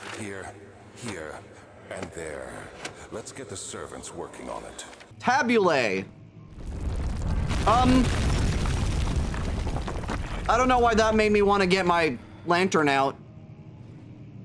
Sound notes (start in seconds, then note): 6.6 rumbling; 6.6 rocks falling loudly